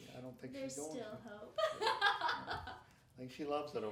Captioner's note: laughing